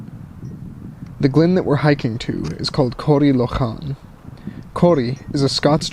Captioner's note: voiceover